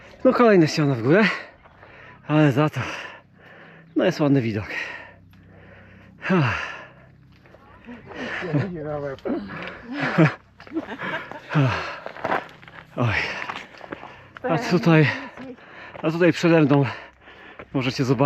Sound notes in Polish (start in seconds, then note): 10.5 śmiech